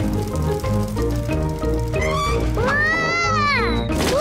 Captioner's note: tires screech